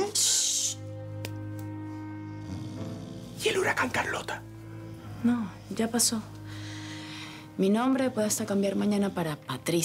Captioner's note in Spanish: Susurra